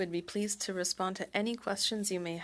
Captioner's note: speaking French